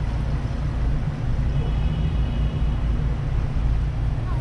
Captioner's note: even more distant car horn